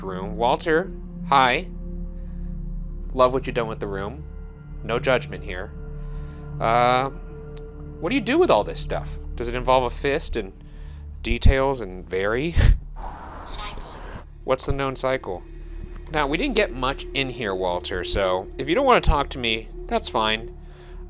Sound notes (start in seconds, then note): 1.8 eerie music; 6.4 eerie music; 13.4 automated Voice